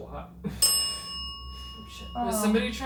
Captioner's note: bell dings